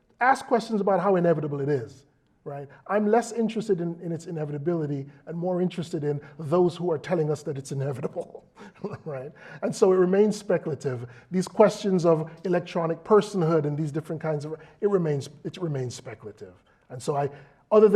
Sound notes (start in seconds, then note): 7.7 laugh